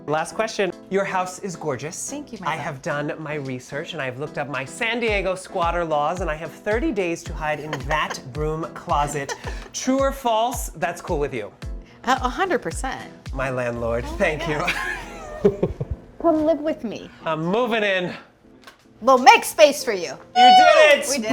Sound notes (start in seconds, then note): 9.0 Marcela laughs; 14.4 chuckles